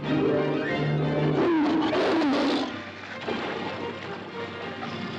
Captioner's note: suspenseful music; tiger roars; water splashes; suspenseful music; tiger growling